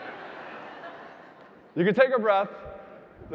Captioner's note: audience laughing